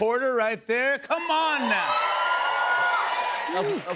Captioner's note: cheers and applause